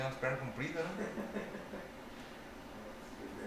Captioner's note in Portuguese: risos